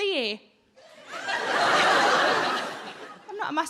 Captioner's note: audience laughing